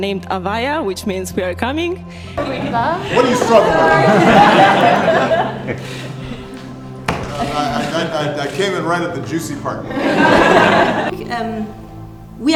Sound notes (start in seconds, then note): 2.4 everyone laughing; 10.1 audience laughing